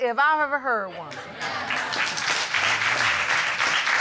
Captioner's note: applause